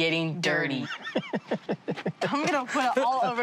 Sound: laughing

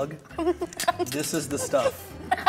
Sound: laughter

